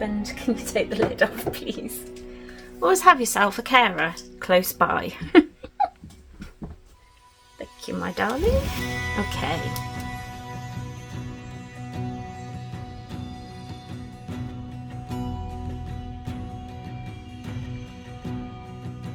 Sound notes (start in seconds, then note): 5.1 giggles